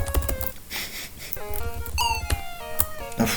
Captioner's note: nose laugh